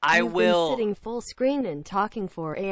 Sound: puke

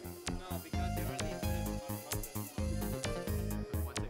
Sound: electric rover motor

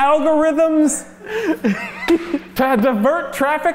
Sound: laughing

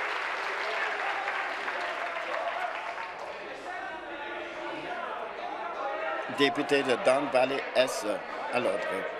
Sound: applause

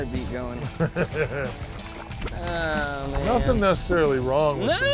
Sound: laughter

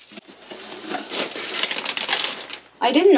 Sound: plastic wrapper crinkling

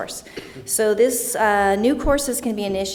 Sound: coughs

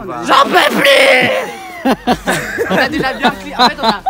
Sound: laughs

